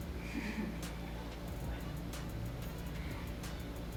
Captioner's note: laughs